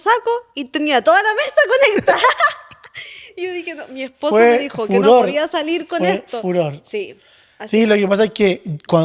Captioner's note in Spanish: risas